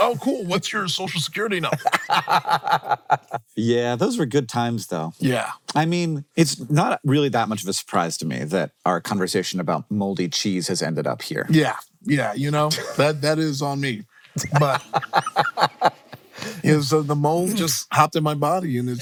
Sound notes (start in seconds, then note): 1.6 laughing; 14.4 laughing